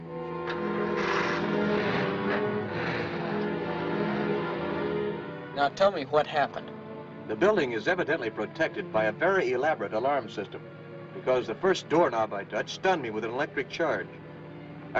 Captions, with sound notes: [Engine starts] Now tell me what happened. The building is evidently protected by a very elaborate alarm system, because the first door knob I touched stunned me with an electric charge.